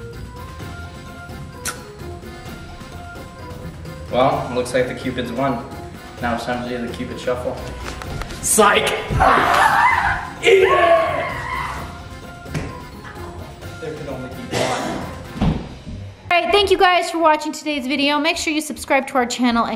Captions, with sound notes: - Well looks like the Cupid's won. Now its time to do the Cupid's shuffle. - Slide. (screams) - Eat it! There can only be one. Hey, thank you guys for watching today's video. Make sure you subscribe to our channel